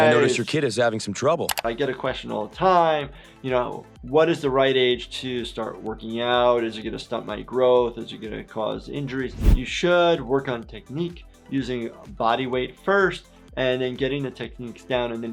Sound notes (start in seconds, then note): none